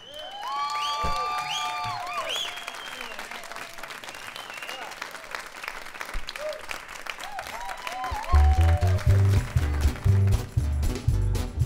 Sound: applause

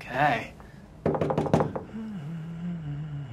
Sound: knocks

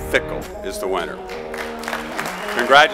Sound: applause

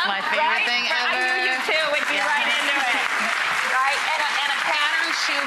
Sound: clapping

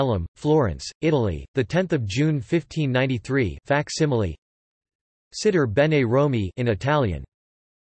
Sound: in Italian

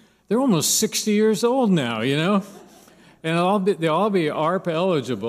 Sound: laughter

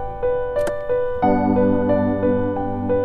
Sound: car door opens

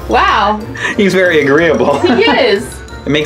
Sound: laughs

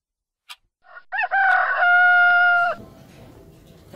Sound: cock-a-doodle-doo

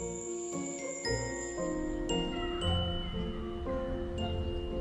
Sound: crickets chirping

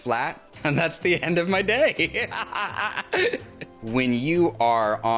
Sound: laughs

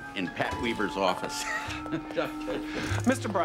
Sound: laughs

